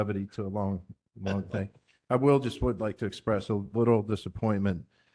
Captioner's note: laugh